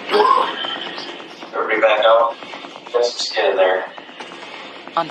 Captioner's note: person coughs